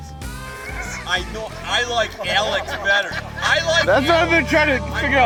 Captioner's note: laughing